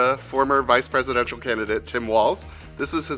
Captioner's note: none